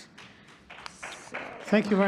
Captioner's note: audience applauding